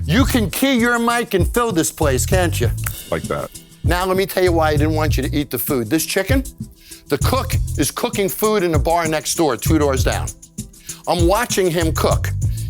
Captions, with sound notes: You can key your mic and fill this place, can't you? [SNAPS FINGERS] - Like that. Now, let me tell you why I didn't want you to eat the food. This chicken? The cook is cooking food in a bar next door, two doors down. I'm watching him cook.